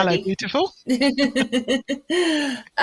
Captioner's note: laughs